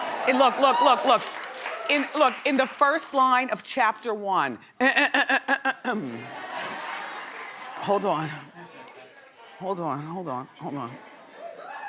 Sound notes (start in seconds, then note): 0.0 audience cheering; 5.2 clears throat